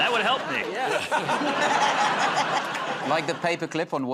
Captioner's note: laughter